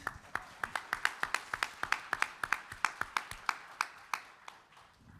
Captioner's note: audience applauding